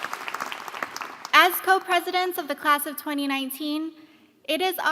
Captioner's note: applause